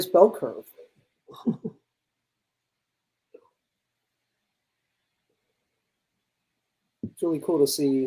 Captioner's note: chuckles